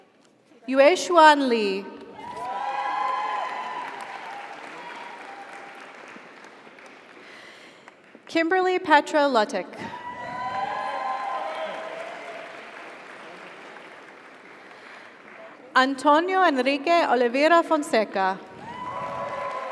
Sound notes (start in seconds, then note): 2.2 audience cheers; 2.2 audience applauds; 10.0 audience cheers; 10.2 audience applauds; 18.6 audience cheers; 18.6 audience applauds